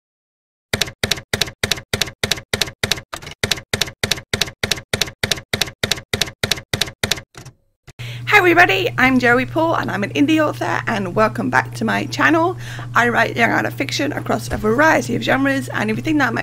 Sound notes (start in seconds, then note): 0.7 typewriter keys clacking